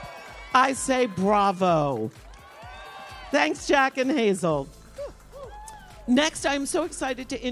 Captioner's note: applause